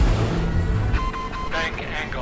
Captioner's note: beeping